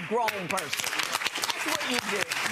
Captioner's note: audience applauds